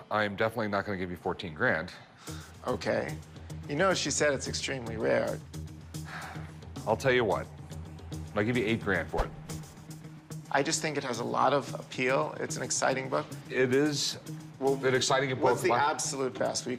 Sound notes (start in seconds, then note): 5.9 sighs